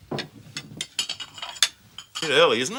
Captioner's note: dishware clattering